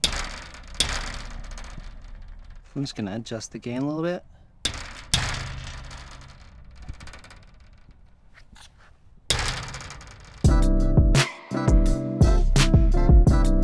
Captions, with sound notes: (gate rattling) I'm just gonna adjust the gain a little bit. (gate rattling) (upbeat music)